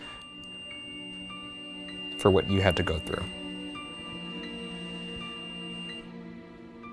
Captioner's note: somber music; REM-Pod squealing